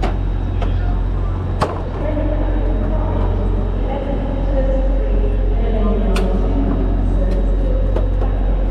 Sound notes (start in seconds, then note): 0.0 ramp rattling; 2.1 intercom echoing